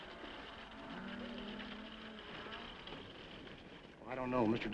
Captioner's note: horse hooves clopping; cows mooing